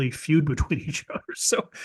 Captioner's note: laugh